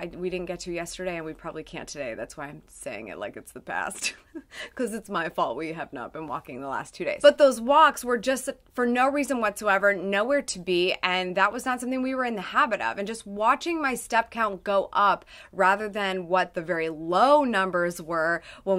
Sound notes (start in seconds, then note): 3.9 chuckles